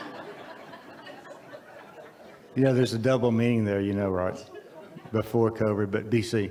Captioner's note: audience laughs